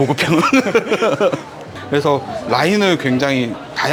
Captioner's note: laughs